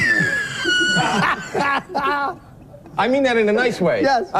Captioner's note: laughs